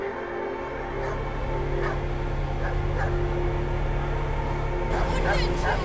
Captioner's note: barking